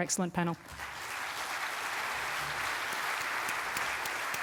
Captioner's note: audience clapping